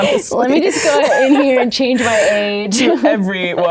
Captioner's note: laughs